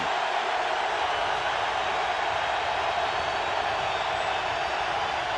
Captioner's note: crowd cheering